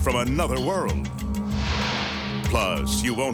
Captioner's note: light beam swishing